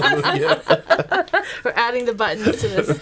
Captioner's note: laughing